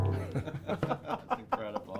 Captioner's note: both laughing